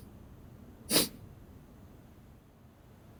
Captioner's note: sniffle